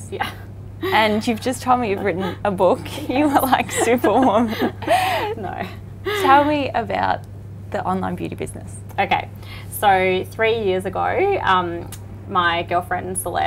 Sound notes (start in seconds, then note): 2.8 laughs